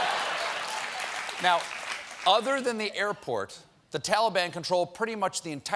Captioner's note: laughter